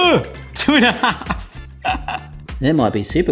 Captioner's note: laughing